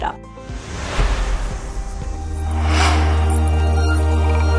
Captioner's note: logo whooshing